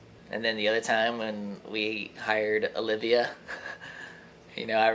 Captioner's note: laughs